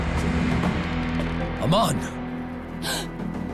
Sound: gasping

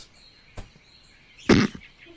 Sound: lets out a laugh

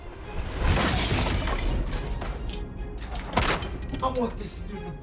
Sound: chair smashing

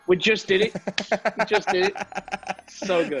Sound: laugh

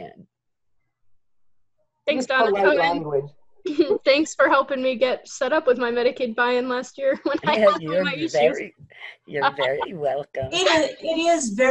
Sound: laughter

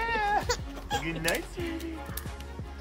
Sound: baby laughs

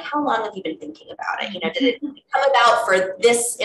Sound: laughing

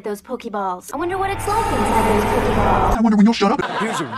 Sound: fading out to distant echo; audience laughing

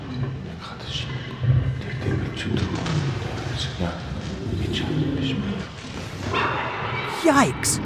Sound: lions growling

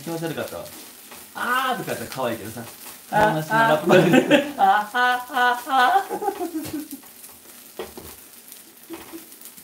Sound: laughs

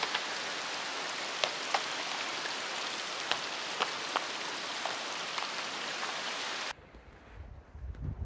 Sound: rocks falling

